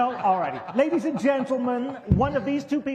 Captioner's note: laughter